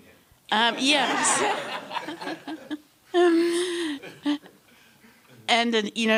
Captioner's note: laughter